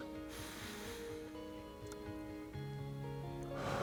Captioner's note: inhaling